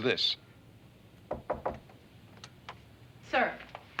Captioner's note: knocking